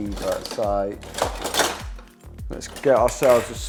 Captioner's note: utensils clatter